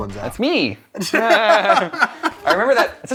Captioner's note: laughter